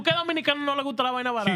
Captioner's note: speaking In Foreign Language